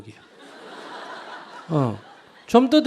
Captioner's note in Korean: 청중웃음